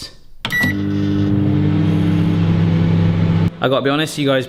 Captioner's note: microwave whirring